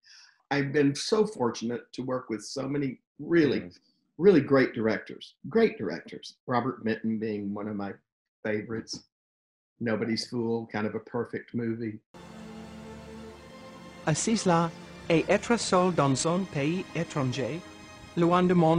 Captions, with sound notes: I've been so fortunate to work with so many really, really great directors. Great directors. Robert Benton being one of my favorites. "Nobody's Fool," kind of a perfect movie. (dramatic music) (speaks in foreign language)